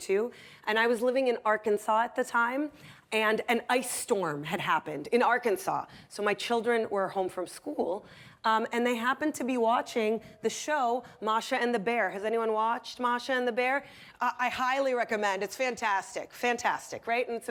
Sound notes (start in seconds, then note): none